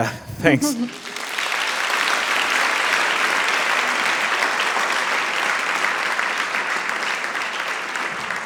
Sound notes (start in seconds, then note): 0.6 attendees applauding